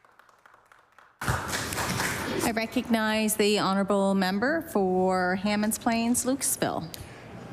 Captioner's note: applause